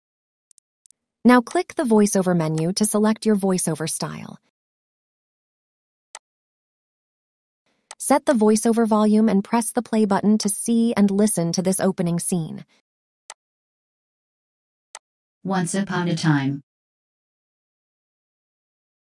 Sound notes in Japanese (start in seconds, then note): 1.4 ボイスオーバー